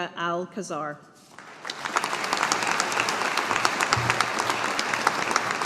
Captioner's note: audience applauding